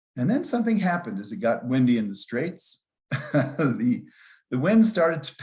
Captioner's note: laughs